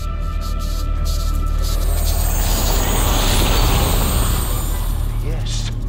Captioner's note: whirling